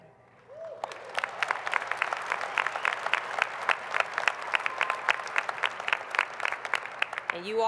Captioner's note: applause